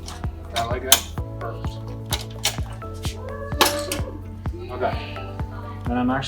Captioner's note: metal clicking